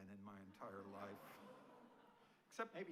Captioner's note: audience laughing